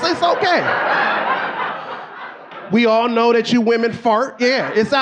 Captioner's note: audience laughing